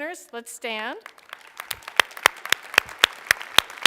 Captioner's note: applause